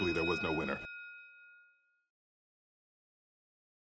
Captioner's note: bell rings